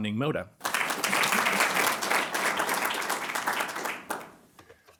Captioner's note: applause